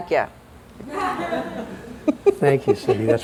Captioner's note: laughter